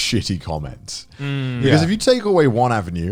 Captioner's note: affirmative murmuring